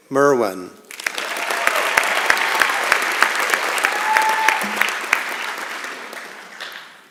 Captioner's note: applause and Cheering